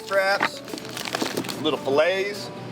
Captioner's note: meat clunks